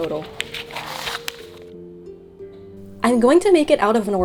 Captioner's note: paper crinkling; soft medieval music